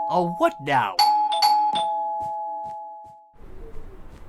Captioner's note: doorbell